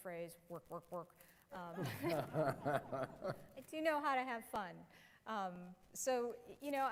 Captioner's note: laughter